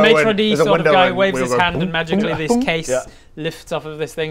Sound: boo boo boop

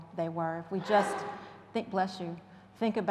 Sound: audience member sneezing

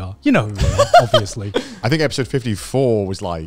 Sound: laughing

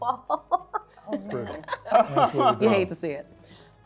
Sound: laughs

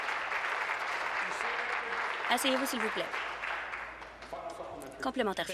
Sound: applause

